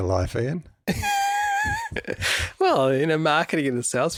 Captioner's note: laughs